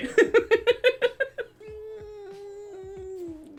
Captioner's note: laughs